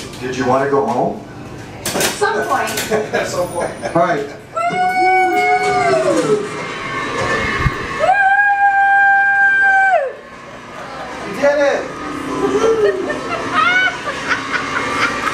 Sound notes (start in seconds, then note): 2.9 laughter; 4.6 screaming; 7.9 screaming; 12.4 laughter